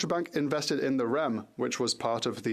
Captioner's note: speaking French